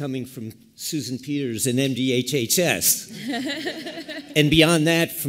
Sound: laughter

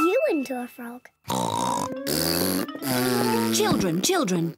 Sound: oinks; blows raspberry

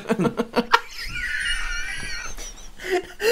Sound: wheezing Laughter

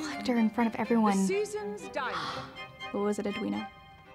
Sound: gasps

